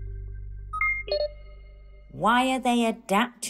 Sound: device beeping

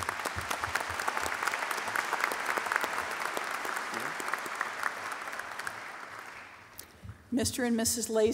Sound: applause

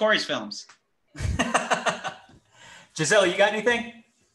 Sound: laughs

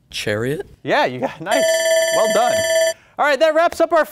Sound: buzzer ringing

